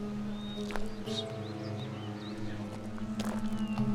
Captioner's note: low whistle